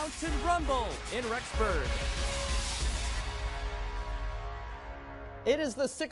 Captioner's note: cheering, then music